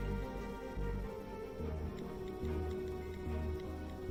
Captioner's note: typing